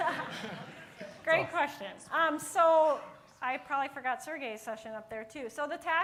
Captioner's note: laughter